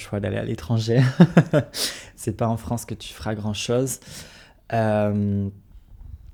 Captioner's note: laughs